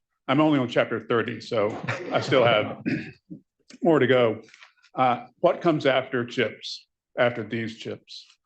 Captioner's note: laughter